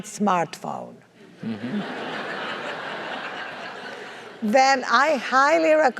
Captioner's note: laugh